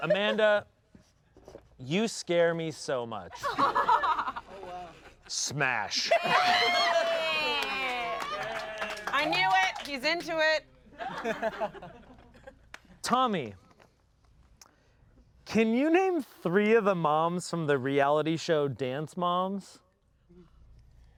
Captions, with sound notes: - Amanda, you scare me so much. (everyone laughs) Smash. (everyone laughs) - I knew it. He's into it. (everyone laughs) - Tommy, can you name three of the moms from the reality show Dance Moms?